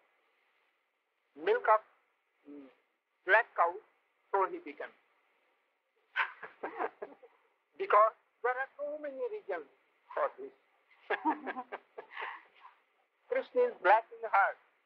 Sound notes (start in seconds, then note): 6.1 laughter; 11.0 laughs